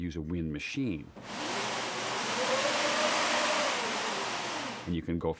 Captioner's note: whooshing